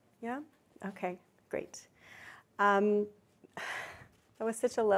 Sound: none

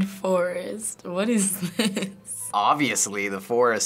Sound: laughing

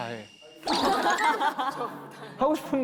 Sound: laughing

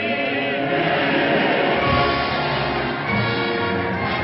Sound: crowd cheering

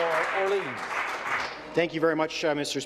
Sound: applause

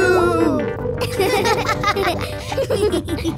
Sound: laughing

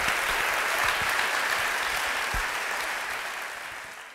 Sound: applause

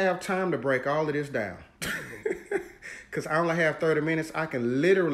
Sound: laughs

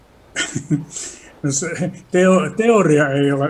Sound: laughing

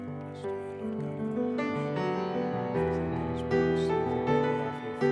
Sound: priest whispering

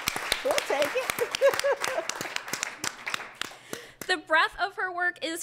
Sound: applause; laughing

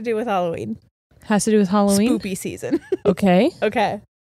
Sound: giggles

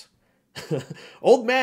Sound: giggles

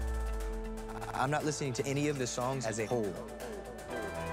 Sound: echoing

